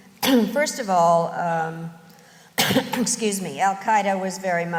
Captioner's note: clears throat